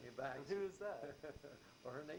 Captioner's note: chuckles; laughs